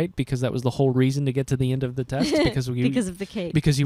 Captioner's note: laughing